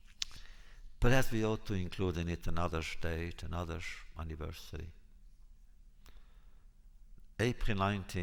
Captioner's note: Yiddish